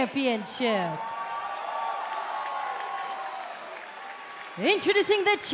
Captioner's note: cheers and applause